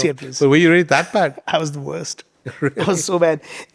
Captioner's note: chuckling